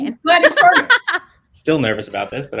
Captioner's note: laughs